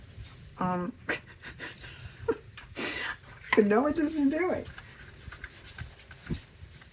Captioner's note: laughs